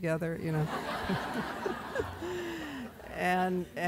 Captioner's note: laughter